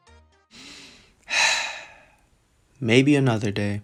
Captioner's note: sigh